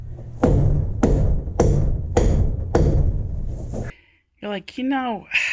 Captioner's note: repeatedly hitting board